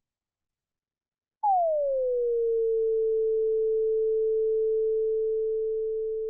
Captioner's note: tone decreases quicker to flat tone